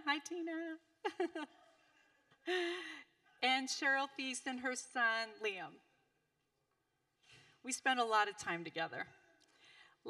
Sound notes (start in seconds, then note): 1.0 laughing